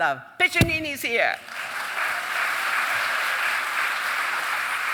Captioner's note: audience cheering and applauding